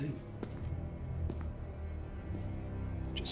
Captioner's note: footsteps